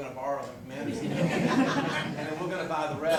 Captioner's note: corporate laughter